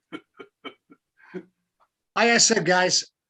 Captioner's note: laughing